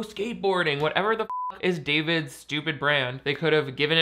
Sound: beep

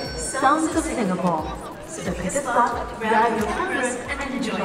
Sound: loudspeaker announcement

